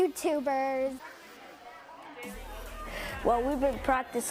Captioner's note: group talking